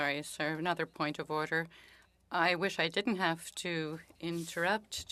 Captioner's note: speaking French